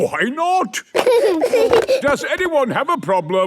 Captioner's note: giggling